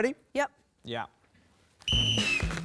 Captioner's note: blows whistle